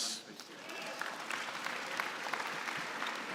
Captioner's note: applause